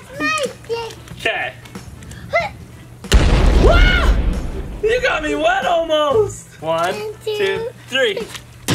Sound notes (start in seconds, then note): 3.0 bang